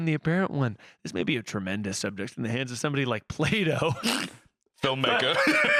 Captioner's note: laughs